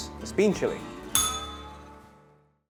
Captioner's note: bell rings